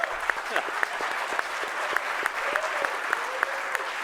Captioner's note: audience applauding